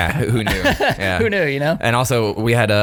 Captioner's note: laughs